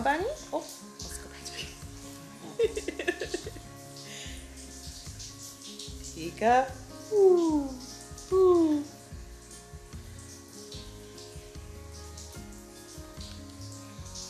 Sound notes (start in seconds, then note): 2.4 laughing; 9.4 shower water flowing